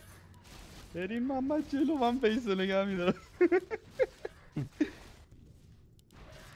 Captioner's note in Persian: خنده